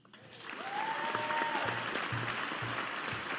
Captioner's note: audience applauding